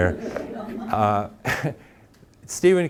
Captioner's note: audience laughing